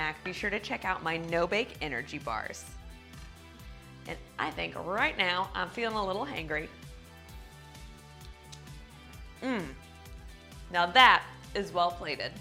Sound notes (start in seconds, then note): 9.4 grunting